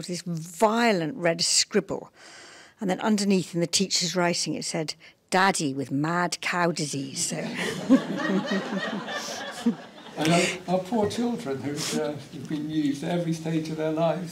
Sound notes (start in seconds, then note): 7.4 laughter